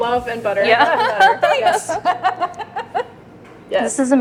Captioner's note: all laughing